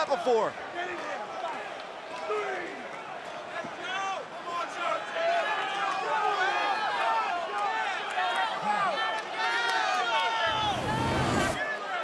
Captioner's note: crowd cheering